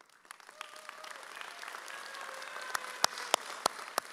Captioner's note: audience cheers